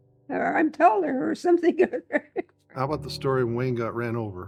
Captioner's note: laughs